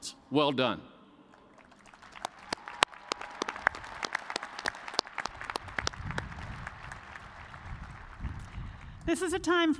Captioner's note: cheers and applause